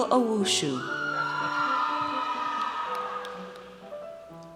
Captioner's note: audience cheers